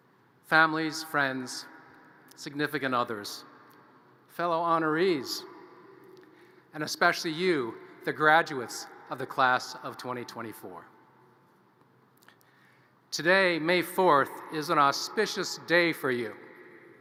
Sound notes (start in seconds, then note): none